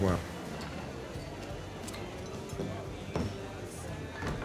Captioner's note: chatter